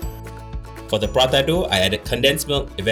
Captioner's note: voiceover